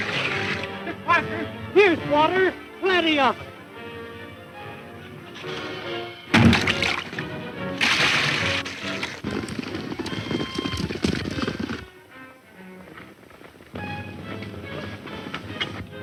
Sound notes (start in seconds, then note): 6.3 water sloshing; 6.3 wood hitting wood; 8.4 running hoof beats